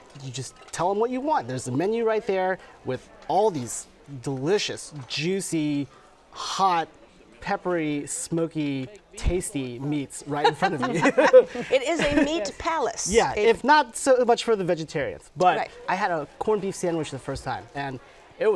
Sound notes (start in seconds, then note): 10.4 laughs